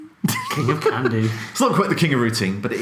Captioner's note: laughing